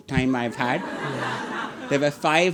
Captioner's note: audience laughing